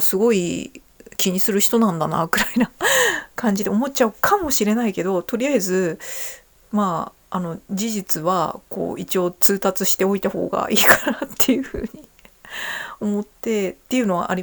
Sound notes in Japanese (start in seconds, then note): 2.9 笑い; 11.2 笑い